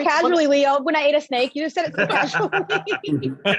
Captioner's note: laughs